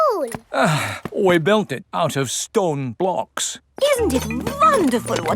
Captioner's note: sighs